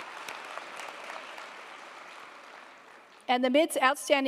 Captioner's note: audience applauding